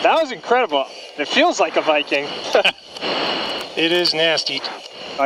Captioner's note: laughs